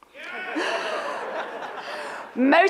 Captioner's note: audience laughs